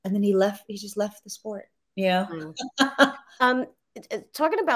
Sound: laughs

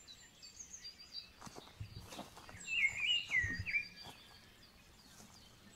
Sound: foot steps on leaves

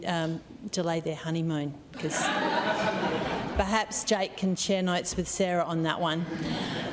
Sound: laughter

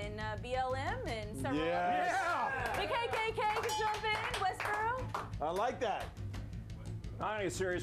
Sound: applause

